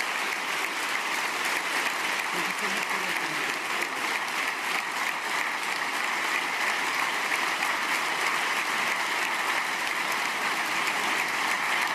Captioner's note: applause